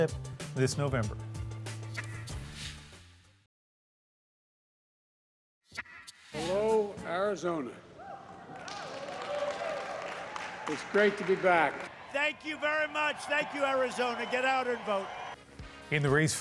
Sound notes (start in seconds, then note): 11.7 applause